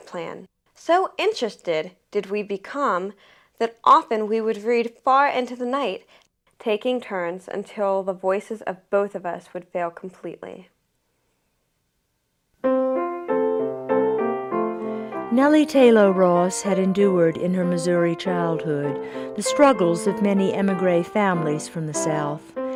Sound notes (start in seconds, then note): 14.8 voiceover